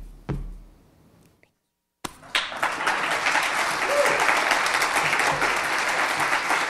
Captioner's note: audience clapping